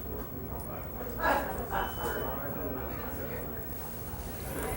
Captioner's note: audience chattering